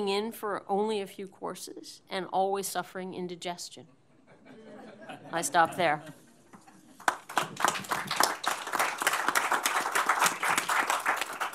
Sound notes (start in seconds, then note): 4.1 laughter; 7.0 applause